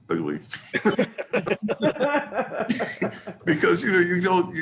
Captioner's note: laughing